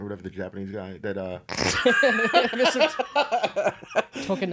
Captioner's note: laughing